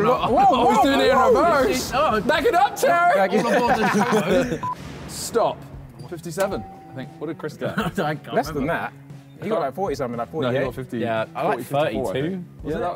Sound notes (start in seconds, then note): 3.4 all laughing